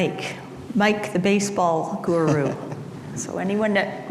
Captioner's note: laughs